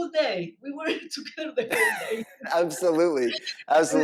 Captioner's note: chuckling